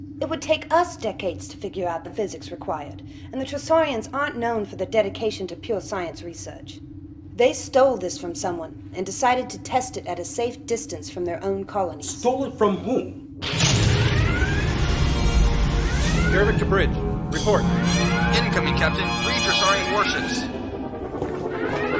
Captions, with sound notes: It would take US decades to figure out the physics required, and the Tressaurians aren't known for their dedication to pure science research. They stole this for someone and decided to test it at a safe distance from their own colonies. - Stole it from whom? [Explosion and Alarm] - Garrovick to Bridge! Report! [Comm voice]- Incoming, Captain. Three Tressaurian warships!